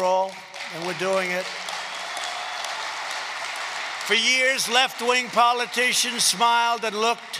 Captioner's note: applause